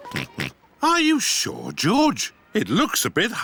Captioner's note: oinks